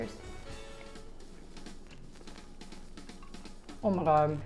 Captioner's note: eating